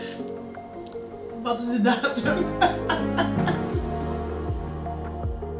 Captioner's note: laughs